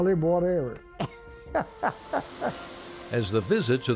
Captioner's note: laughs